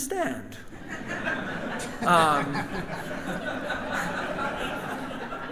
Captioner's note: audience and band laughs